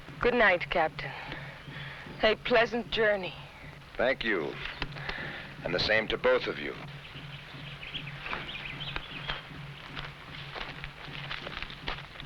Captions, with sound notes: - Good night, Captain. A pleasant journey. - Thank you, and the same to both of you. (birds chirping)